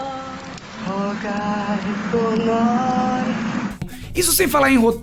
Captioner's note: truck noises